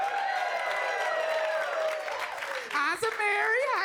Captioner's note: audience cheering; audience clapping